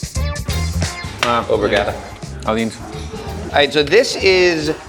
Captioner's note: men speaking in foreign language